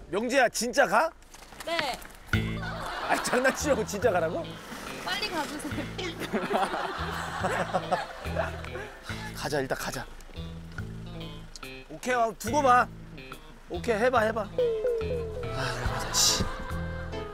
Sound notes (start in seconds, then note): 7.4 laughing; 10.7 she sounds firm telling him to go